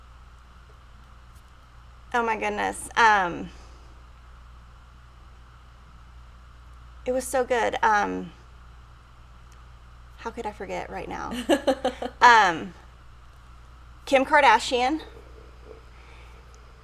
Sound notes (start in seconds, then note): 11.3 laughs